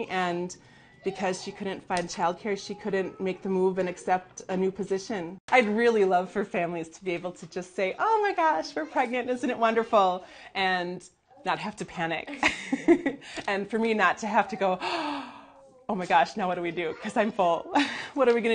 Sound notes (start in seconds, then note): 12.4 laughing; 14.8 gasp